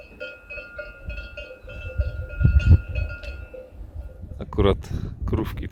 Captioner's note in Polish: Dzwonki